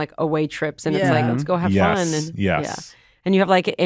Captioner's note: others agreeing